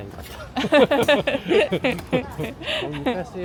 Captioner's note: laughter